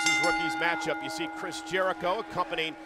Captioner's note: bell ringing